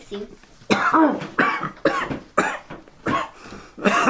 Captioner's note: Gill coughing